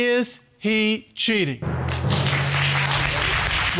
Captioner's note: audience applauding